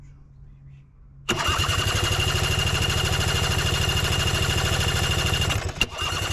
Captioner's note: engine Cranking Sound